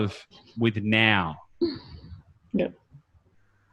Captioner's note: laughs